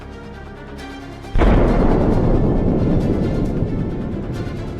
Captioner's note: explosion